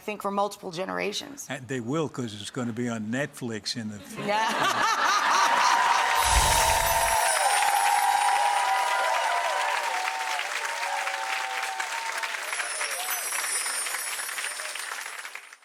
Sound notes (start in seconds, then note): 4.1 laughs; 5.6 audience cheers